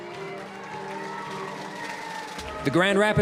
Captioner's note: applause, cheering